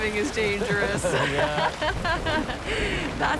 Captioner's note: laughing